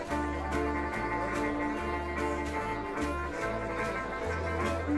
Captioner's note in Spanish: gente charlando